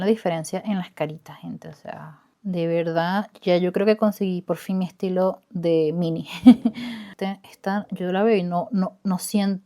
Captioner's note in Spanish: risas